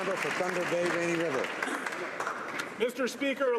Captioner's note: some Applause